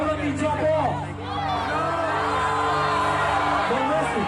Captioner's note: crowd booing